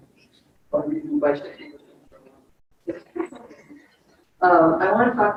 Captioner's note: speaks distorted